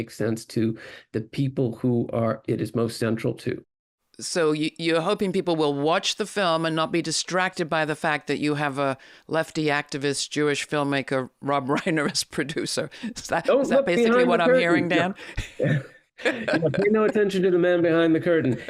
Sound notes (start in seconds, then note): 16.2 laughs